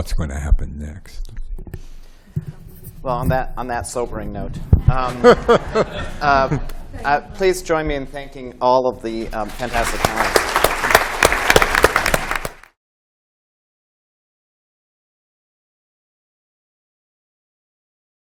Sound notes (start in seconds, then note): 9.4 applause